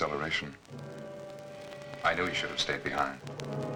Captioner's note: dramatic music; zapping